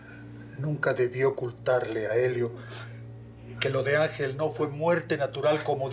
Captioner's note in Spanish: sollozos